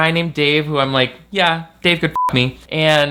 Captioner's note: beep